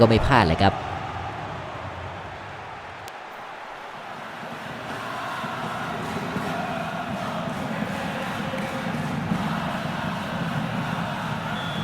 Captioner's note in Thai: ปรบมือ